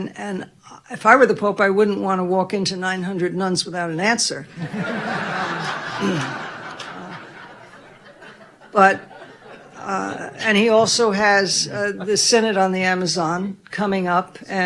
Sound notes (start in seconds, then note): 4.5 audience laughing